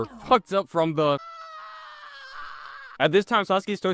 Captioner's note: Sasuke screaming